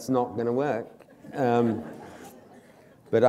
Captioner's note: laughter